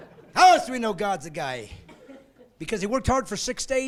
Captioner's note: laughing